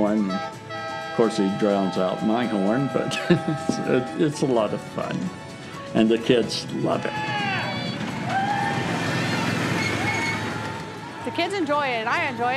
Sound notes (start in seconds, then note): 6.9 cheering